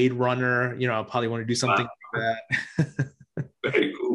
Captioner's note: laughs